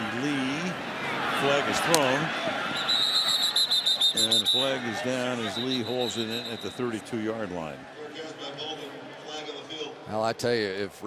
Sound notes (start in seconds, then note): 2.7 whistle